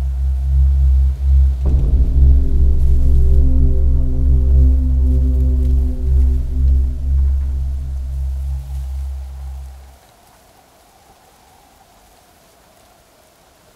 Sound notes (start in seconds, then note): 1.4 dramatic music; 9.1 wind rustling